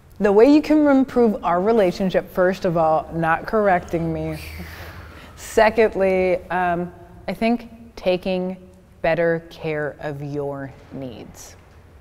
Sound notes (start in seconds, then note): 4.2 whooshing